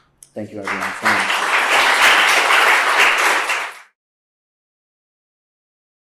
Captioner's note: applause